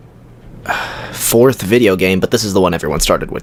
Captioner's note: sigh